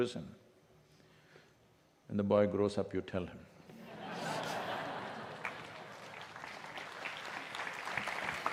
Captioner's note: laughter/Applause